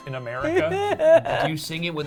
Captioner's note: laughing